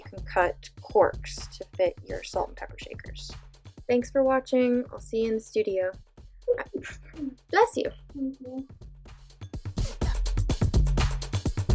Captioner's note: sneeze